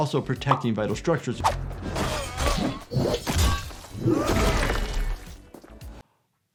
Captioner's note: characters groan, weapon slashes